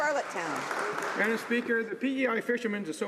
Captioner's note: some Applause